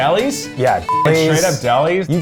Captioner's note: beeps